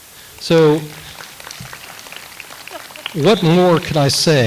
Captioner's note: audience applauds